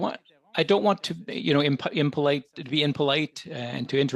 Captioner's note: speaking French